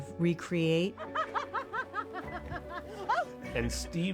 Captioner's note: laughing